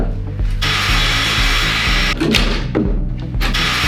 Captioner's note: upbeat music begins; saw whirs; hammer thumps; saw whirs